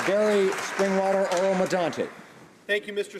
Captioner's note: applause